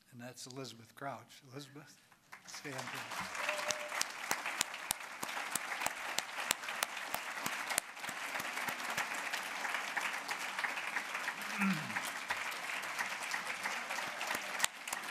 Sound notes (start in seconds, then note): 2.1 applause